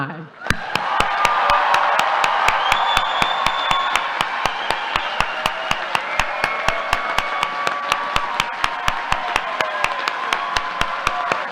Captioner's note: applause